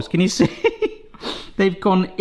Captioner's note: laughs